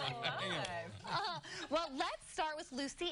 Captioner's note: laughter